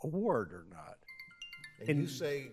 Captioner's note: alarm ringing